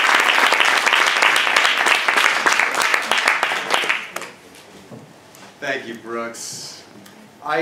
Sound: applause

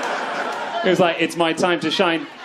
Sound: crowd laughs

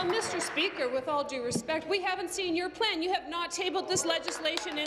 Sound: applause

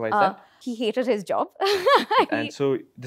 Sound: laughs

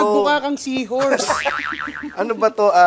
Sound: laughter

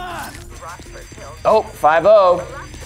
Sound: alarm rings

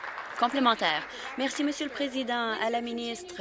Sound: applause

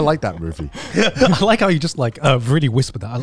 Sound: laughs

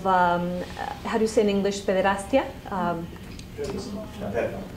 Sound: spanish

